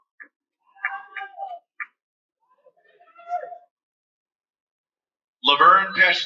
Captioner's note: cheering